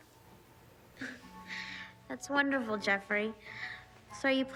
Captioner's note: scoffs